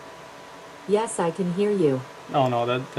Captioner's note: normal voice